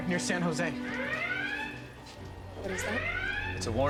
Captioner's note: alarm sounds